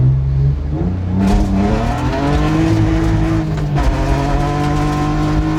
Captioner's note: car revving loudly